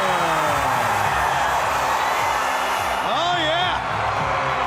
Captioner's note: crowd cheering